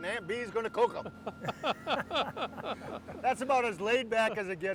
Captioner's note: laughs